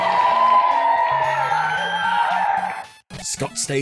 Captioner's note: audience cheering